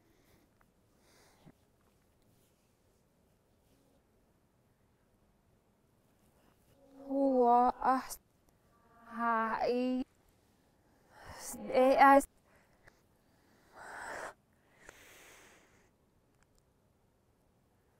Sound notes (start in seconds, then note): 14.6 deep breath